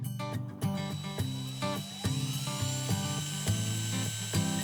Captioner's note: drill buzzing